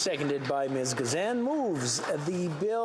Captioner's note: applause